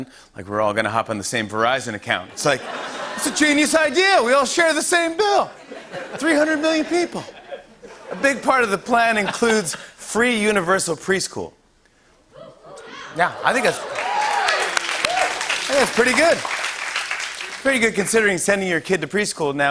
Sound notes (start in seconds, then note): 12.8 cheers and applause